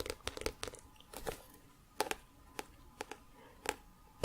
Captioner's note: tapping on book